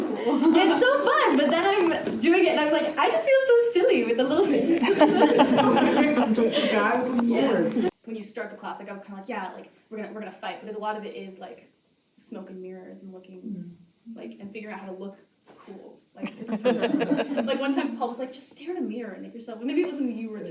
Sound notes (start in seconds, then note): 4.6 audience laughter; 16.3 audience laughter